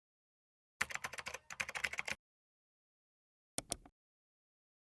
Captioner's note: keyboard keys clacking